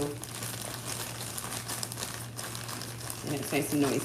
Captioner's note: bag crinkling